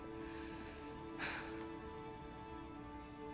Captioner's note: sighs